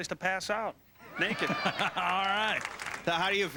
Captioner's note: laughs